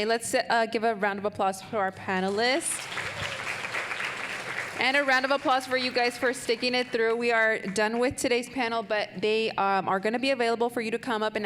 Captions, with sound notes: Let's give a round of applause for our panelists. (audience applauding) And a round of applause for you guys for sticking it through. We are done with today's panel, but they are gonna be available for you to come up